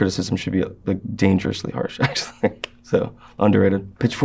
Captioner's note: laughs